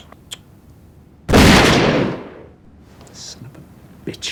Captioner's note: gunshot